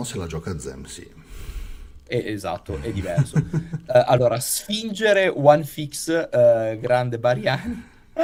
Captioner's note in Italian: sbuffare; risate